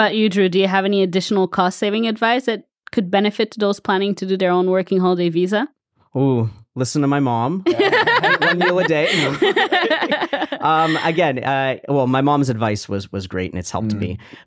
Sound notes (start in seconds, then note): 7.6 laugh; 9.8 laughs